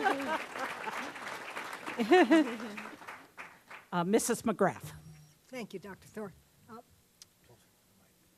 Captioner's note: applause